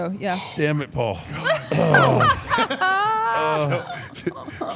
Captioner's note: laughs